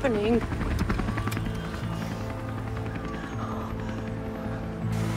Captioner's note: helicopter rumbles